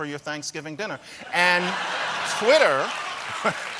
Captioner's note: laughter; applause